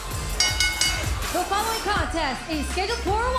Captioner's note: bell ringing